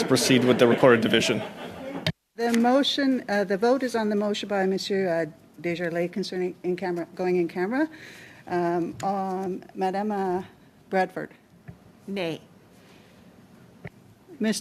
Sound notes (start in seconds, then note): 2.1 conversation din; 2.8 laughter